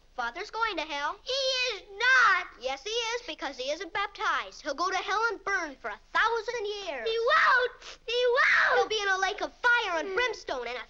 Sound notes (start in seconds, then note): 8.2 screaming